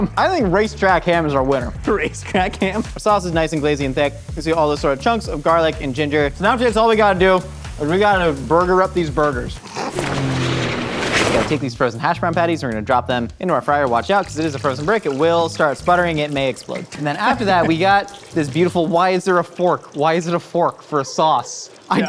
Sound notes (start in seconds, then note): 9.7 laughing; 9.8 plane revving